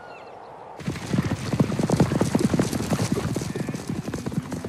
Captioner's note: hooves clattering